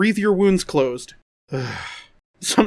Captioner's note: sigh